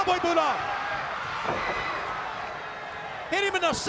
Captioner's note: crowd cheering